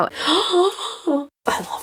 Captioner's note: gasps